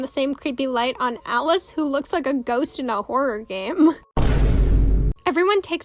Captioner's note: vine boomsound